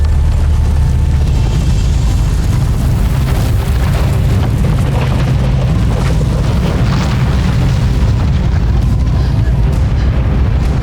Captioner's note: ominous music playing; wind howling; foreboding music playing; glacier cracking & rumbling